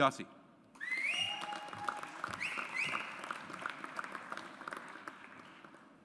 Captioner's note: audience applauds